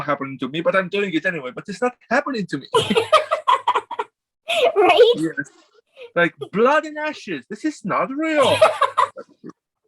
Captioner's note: laughs